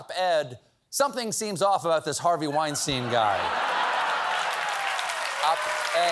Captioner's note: laughter